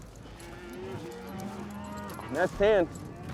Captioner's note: cattle mooing